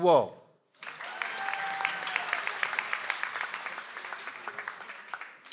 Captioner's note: audience applauds